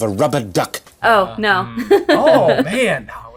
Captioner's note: laughing